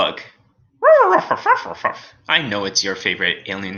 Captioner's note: Alien Space Doggy barking